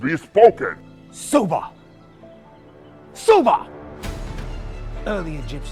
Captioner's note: David speaking in foreign language